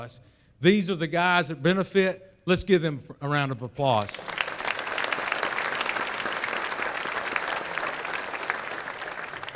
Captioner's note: applause